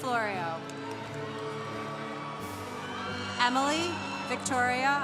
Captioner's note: congregation cheering